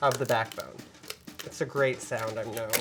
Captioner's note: cracking noise